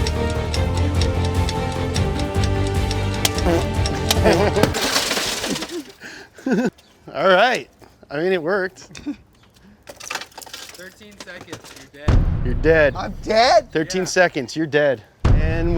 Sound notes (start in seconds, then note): 3.2 fart noises; 4.7 glass breaking